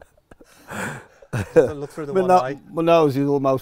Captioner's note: laughs